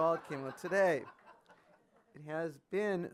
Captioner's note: audience laughing